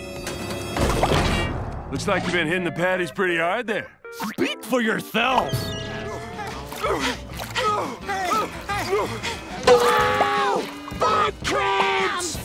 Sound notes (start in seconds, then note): 6.0 panting